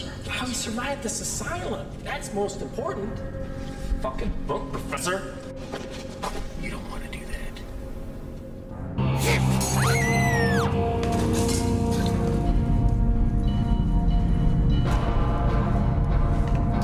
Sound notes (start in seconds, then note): 9.4 ominosa de la música; 9.6 gritos; 13.0 ominosa de la música